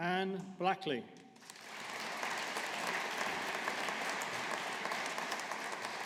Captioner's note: audience applauding